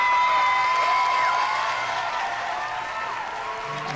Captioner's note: applause and cheering